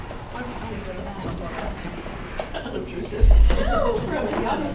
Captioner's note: clerks chatter